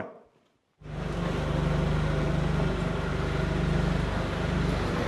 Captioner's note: machine whirring